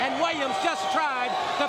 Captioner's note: crowd cheering